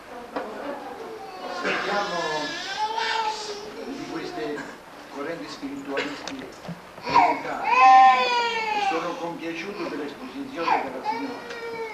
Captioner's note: italian